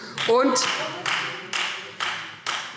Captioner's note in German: Beifall Freie Demokraten